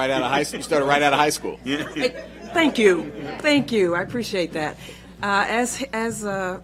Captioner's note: laughter